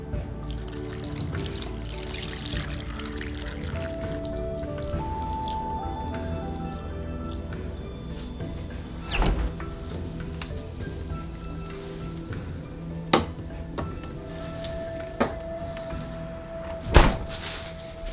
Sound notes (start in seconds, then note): 8.1 SFX: Fridge door opening; 16.1 SFX: Door closing